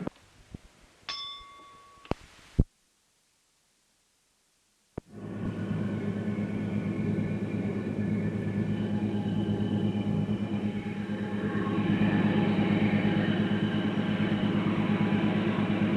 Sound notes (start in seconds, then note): 1.0 bell Sound; 5.1 sound of train moving